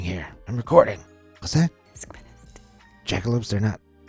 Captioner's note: intern whispering